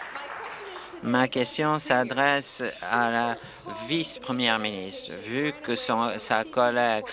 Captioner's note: applause